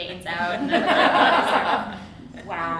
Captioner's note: audience laughs